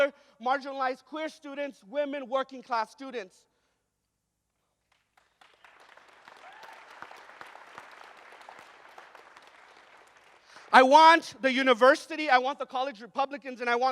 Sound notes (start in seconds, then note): 5.1 audience cheers and applauds